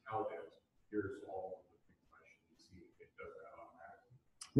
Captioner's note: speaking off mic